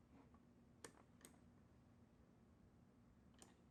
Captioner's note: clicking